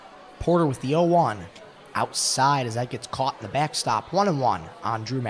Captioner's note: indistinct chatter